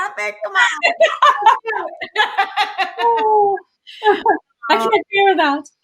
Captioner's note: laughter